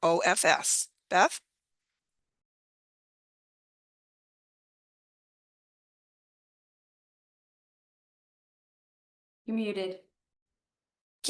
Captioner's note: audio muted